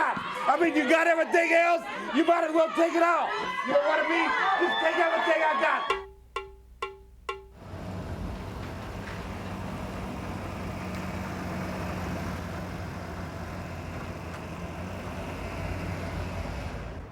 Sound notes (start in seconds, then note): 5.8 drum music; 9.3 engine rumbling